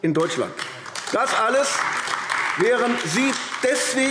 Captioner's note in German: Beifall AfD